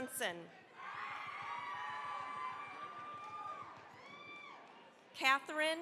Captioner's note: cheering, applause